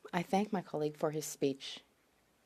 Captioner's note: speaking French